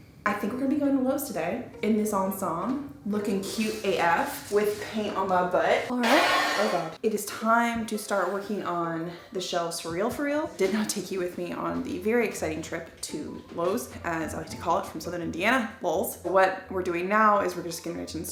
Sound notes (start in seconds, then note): 5.9 metal crashes